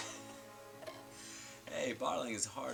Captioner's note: chuckling